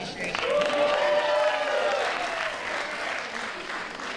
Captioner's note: applause